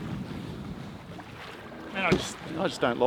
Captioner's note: wind rushing